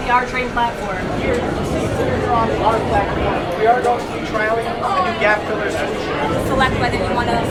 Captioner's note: crowd and subway noises